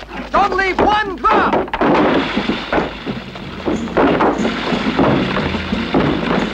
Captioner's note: banging; liquid splashing